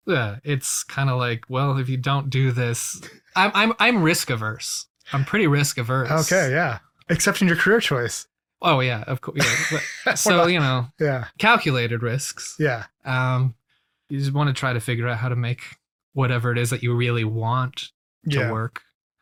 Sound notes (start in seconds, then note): 9.3 laughs